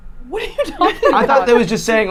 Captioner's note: laughing